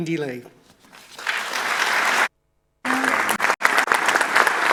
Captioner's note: audience applauding